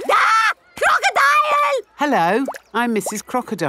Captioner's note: screams